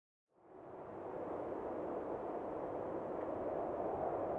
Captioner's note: wind blowing